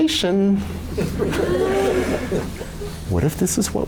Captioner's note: laughter